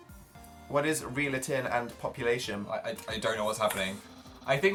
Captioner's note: stammers